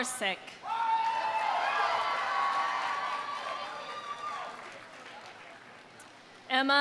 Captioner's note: audience cheering; audience applauding